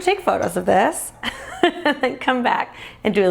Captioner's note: laughing